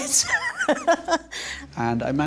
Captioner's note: laughs